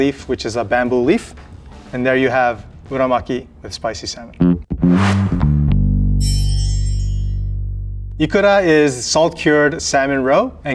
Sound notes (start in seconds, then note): 4.4 jaunty music; 4.7 text chimes